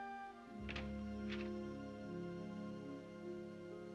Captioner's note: door opens; soft music